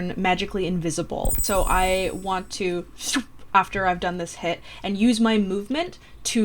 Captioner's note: invisibility sound